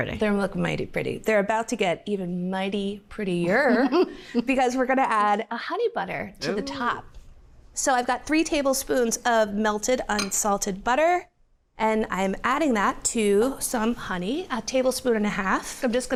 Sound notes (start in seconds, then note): 3.6 chuckles